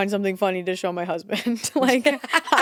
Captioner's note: laughs